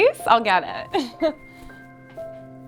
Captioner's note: laughs